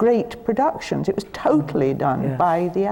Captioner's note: none